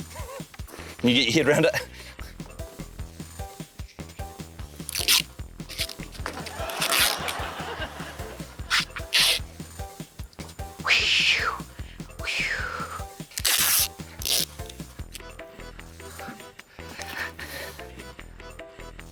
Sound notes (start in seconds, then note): 0.0 laughs; 6.3 laughter; 12.2 imitates whooshing